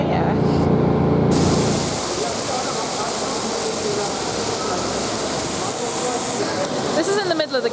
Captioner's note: splashing water